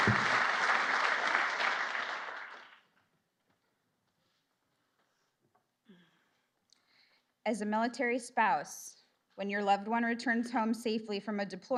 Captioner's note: applause